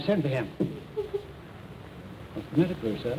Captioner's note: sobbing